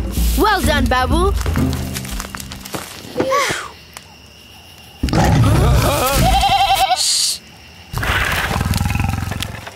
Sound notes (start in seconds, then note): 4.3 exclamations; 5.0 lion roaring; 5.6 bleating; 8.1 soft growling